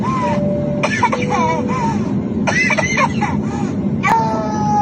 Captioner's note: airplane bell chiming; toddler coughing; toddler crying